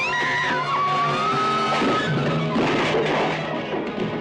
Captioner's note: Sheila screams